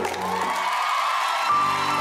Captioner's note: crowd cheers, applauds